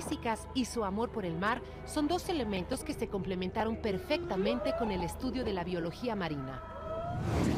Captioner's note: spanish